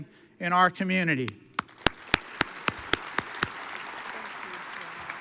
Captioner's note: audience applauds